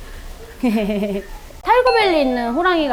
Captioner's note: laughing